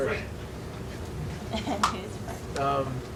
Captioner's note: laughing